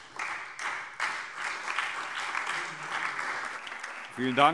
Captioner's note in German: Anhaltender Beifall SPD - Beifall DIE LINKE